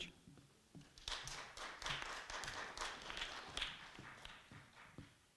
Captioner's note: audience clapping